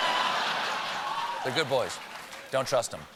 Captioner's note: laughter